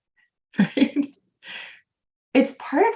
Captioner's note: person laughing